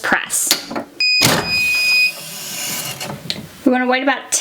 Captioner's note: heat press beeping